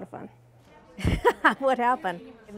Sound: laughing

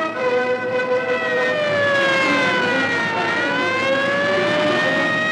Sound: siren wailing

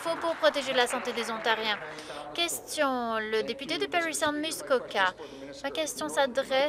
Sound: applause

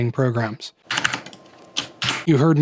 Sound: the sound of hitting Escape twice

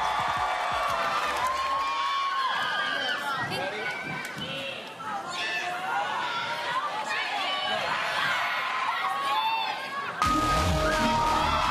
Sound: cheers and applause

